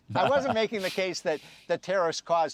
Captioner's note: laughter